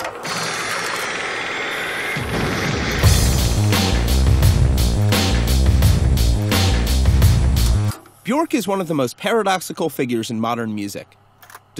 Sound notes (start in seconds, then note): 0.0 tape rolling; 2.1 car crashing; 3.0 upbeat rock music